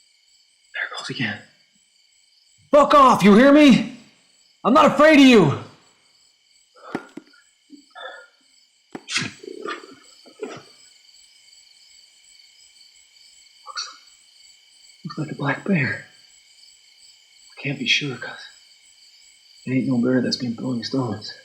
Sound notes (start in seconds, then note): 9.0 sighs